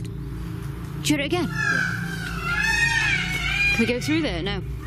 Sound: peacocks squawking

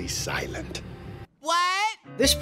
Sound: Elfo, loudly

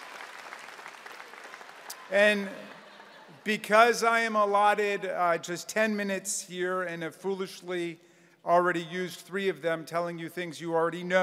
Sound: applause

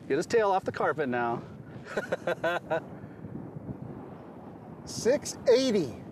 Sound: laughing

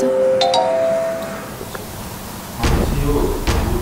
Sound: bell ringing

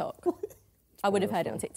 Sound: laughing

